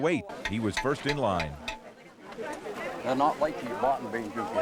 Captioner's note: spoon clangs